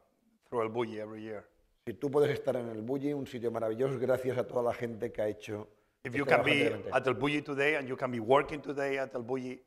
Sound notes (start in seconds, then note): 2.5 speaking spanish